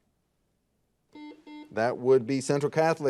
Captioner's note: buzzer beeping